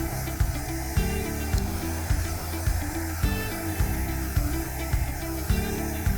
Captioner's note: blow dryer blowing continues; light upbeat music continues